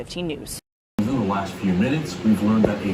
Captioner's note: on TV